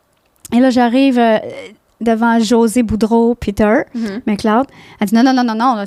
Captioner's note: in french